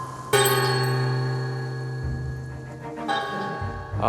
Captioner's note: the sound of a bell echoes in the house